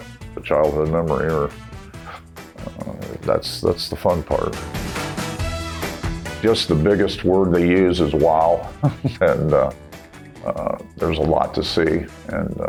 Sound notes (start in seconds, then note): 8.6 laughs